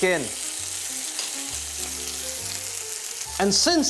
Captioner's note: sizzling sound